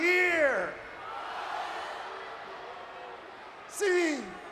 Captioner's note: crowd vocalizing